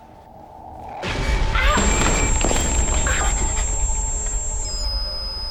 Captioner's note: yelps